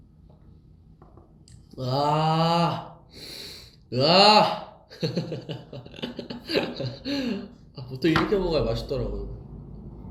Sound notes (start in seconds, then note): 3.2 sniff